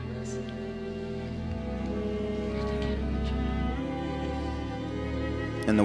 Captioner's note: speaking in Spanish